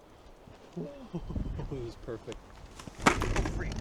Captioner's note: chuckles